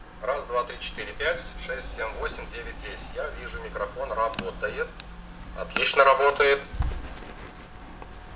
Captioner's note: voice recording from the smartphone speaker is playing